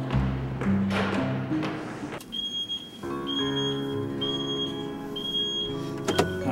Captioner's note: beeping